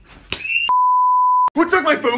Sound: TV Color Bars Sound Effect

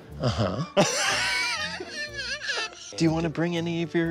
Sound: laughs

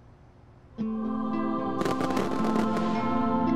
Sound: crackers bursting

